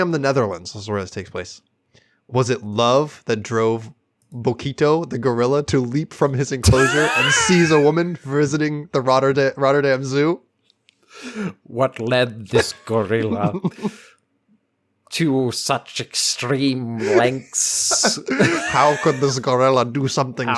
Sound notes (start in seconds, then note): 6.6 laugh; 12.3 old Timey Voice; 12.5 laugh; 15.7 old Timey Voice